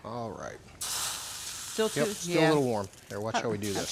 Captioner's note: pan sizzling